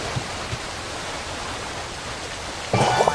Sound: waterfall sound; footsteps

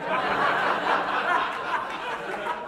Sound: laughter

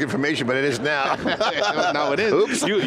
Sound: everyone laughing

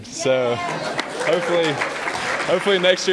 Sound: applause

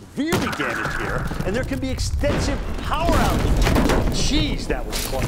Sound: power line falls over

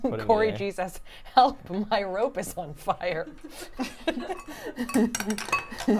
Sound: laughs

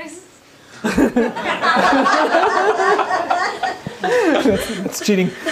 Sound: laughter

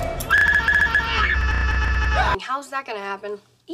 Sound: screming like a girl

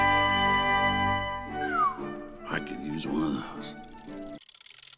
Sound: whistles

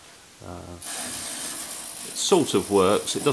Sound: clockwork motor noise

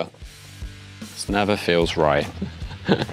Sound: laughs

